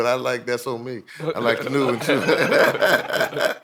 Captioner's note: group laughing